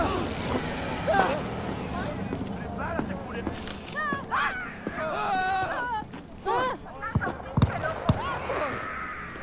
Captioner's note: scream